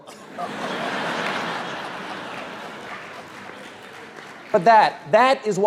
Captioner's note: audience laughs